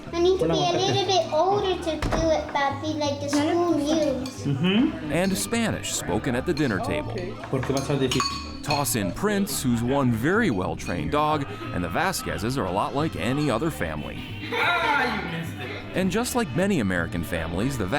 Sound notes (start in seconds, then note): 7.6 speaking Spanish